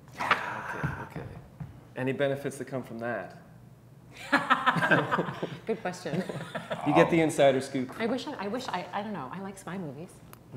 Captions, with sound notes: - Yeah. - Okay, okay. Any benefits that come from that? (all laughing) - Good question. (laughs) - You get the insider scoop. - I wish... I don't know. I like spy movies.